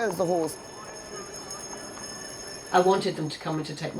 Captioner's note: bells ringing; indistinct chatter